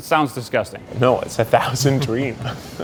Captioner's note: laughs